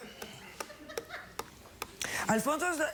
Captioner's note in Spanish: risas del público